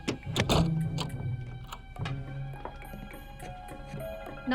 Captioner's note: door thuds